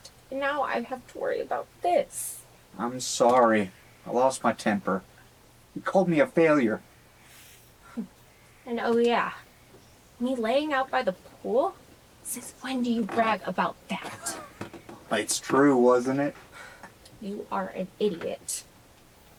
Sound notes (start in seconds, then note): 5.7 scoffs; 14.0 chuckles